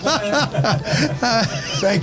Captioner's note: laughing